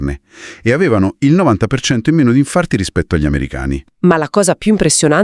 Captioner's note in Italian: sbuffare